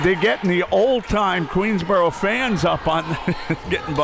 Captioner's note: laughs